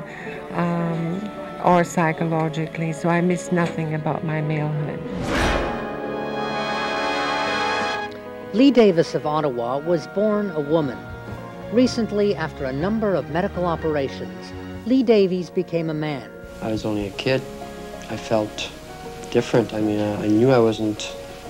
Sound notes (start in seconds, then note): 6.5 whoosh; 7.5 theme music